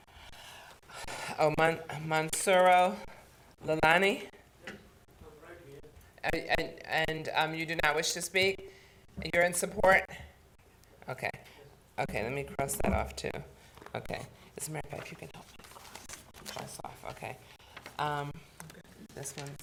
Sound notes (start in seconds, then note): 15.1 board chatting quietly